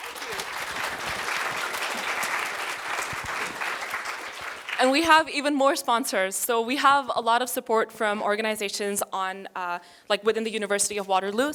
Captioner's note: applause